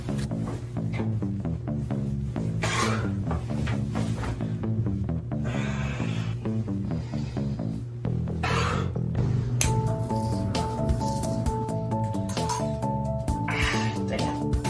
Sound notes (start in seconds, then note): 9.9 shaving noises